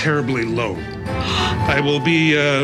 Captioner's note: gasps